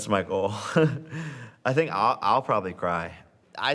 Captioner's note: chuckles